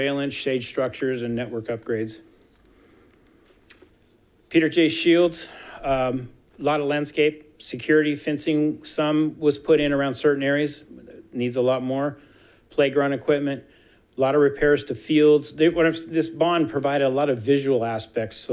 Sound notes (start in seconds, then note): none